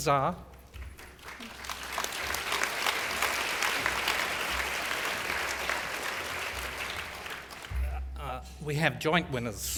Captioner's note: applause